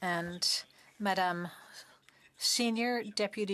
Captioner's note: speaking French